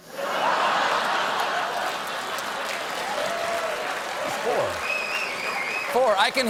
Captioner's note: laughter; applause